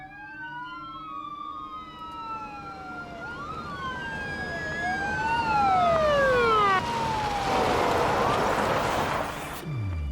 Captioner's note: sirens wailing, approaching